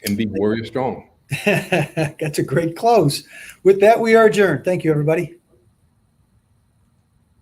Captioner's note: laughs